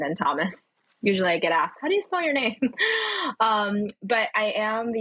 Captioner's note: laughs